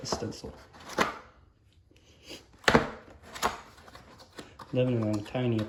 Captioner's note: cardboard sounds